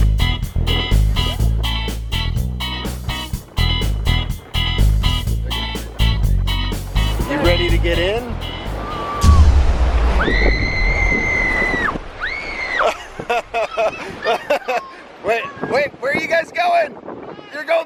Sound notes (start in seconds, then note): 0.3 upbeat music; 9.1 ominous thudding; 10.2 kids squealing; 13.2 laughs